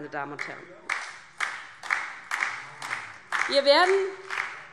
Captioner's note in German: Beifall DIE LINKE, vereinzelt BÜNDNIS 90/DIE GRÜNEN und SPD